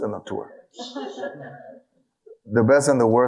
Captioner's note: audience laughing